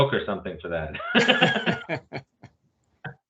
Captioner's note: laughing